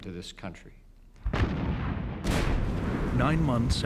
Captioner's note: firing